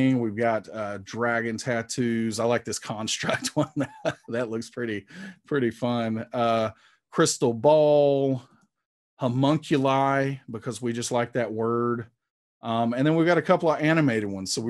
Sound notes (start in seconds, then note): 3.2 chuckling